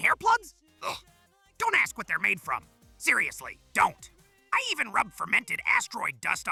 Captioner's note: disgusted noise